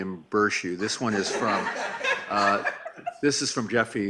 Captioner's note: laughing